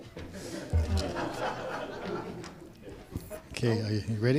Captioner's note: audience laughing